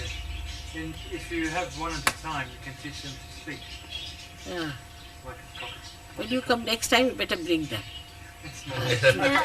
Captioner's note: laughter